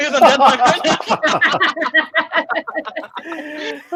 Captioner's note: laughing